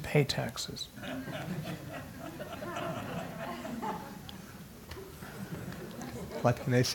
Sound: laugh

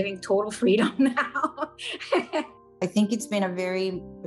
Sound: laughing

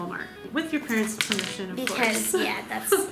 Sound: laughing

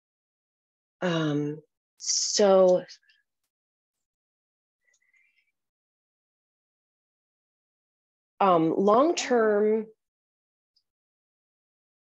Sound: long pause

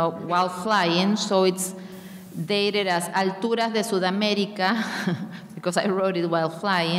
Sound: speaking in a foreign language

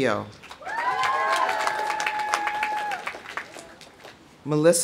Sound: audience applauding; audience cheering

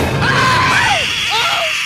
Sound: hissing

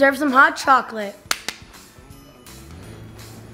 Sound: claps

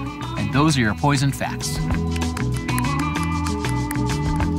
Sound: claps

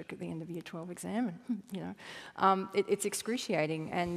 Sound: chuckle

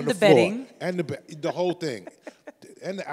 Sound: laughs

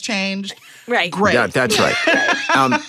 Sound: laughter

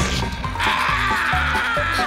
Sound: screaming

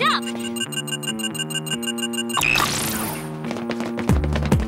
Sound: beeping

